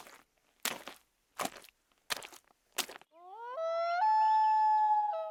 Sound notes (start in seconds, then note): 1.3 footsteps crunching; 3.2 wolf howling